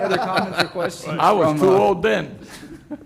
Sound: laughter

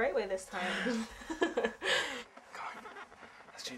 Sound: laughs

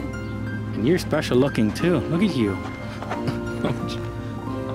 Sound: laughter

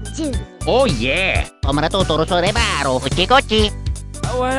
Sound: italian gibberish

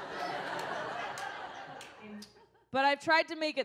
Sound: audience scattered applause

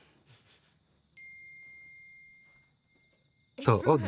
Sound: phone pings

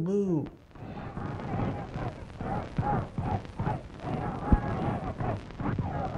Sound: chanting

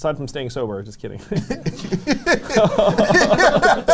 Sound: laughs

